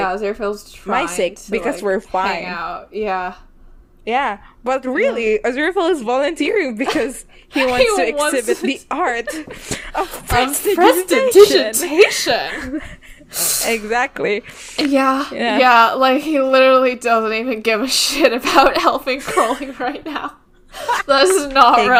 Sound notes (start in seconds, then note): 7.6 laughs; 12.4 both laugh; 20.8 laughs